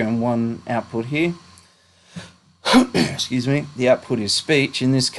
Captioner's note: coughs*: Scuse me